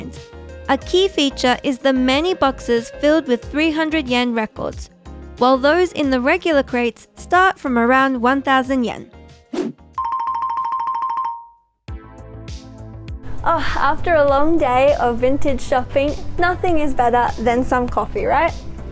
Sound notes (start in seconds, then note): 9.5 air whooshing; 10.0 bell dings; 11.9 light music